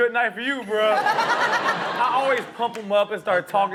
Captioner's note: everybody laughs